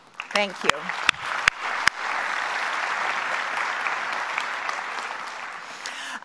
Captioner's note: applause